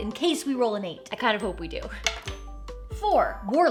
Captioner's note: die clacks